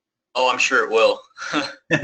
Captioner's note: laugh